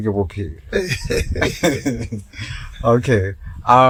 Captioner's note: laughing